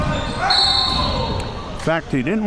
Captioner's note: audience chattering and yelling; whistle blowing